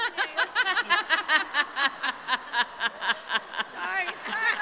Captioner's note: laughter